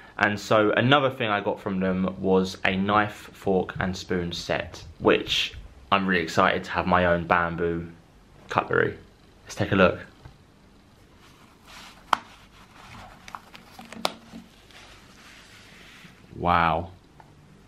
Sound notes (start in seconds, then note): 12.1 buttons snapping